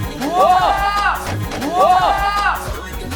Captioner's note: surprised